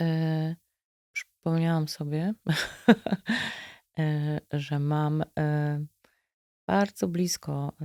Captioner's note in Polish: śmiech